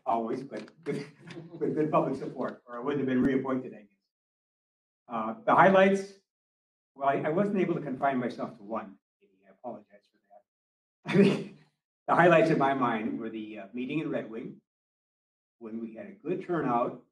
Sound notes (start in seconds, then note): 11.0 laughter